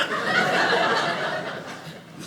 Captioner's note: audience laughing